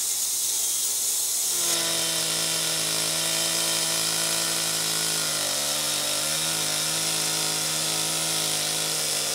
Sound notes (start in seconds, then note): 1.5 chainsaw engine roaring